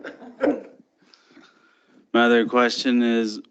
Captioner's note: everyone laughs